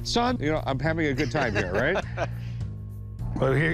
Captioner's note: laughter